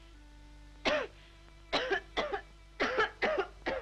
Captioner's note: coughs